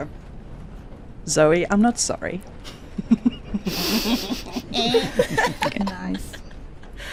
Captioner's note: laughter